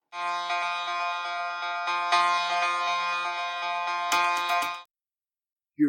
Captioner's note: alarm